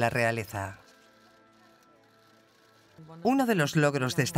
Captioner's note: cameras clicking